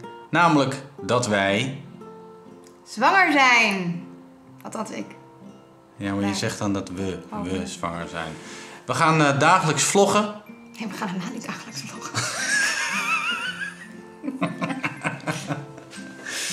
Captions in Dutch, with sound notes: Namelijk dat wij... -...zwanger zijn. -Althans ik. Ja maar, je zegt dan dat we zwanger zijn. We gaan dagelijks vloggen -Nee, we gaan helemaal niet dagelijks vloggen. [gelach]